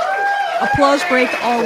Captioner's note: applause and cheering from the crowd